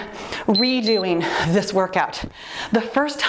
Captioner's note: timer beeps